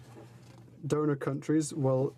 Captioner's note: speaking French